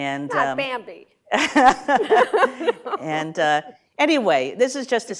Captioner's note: laughter